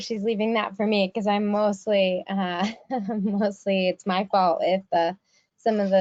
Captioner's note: laughs